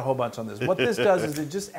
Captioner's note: laugh